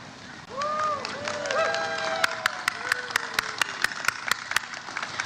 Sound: audience cheers and applauds

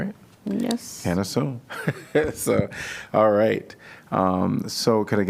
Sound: laughter

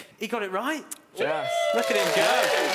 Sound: cheering

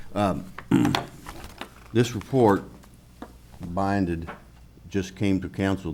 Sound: clears throat

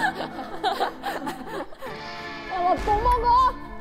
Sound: laughing out loud

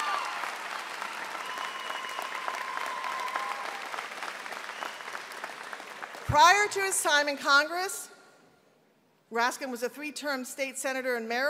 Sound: cheering and applause

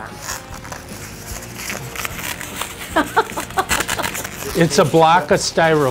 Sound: laughing

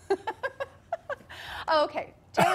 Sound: laughter

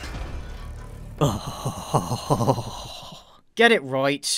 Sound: shudder

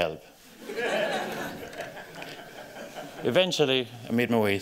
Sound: laughter

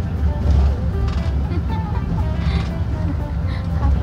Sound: laughing

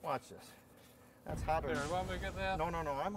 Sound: flames exploding

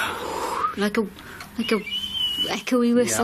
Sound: whistling

